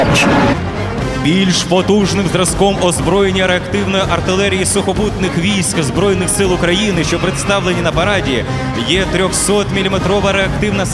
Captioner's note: tornado; tornado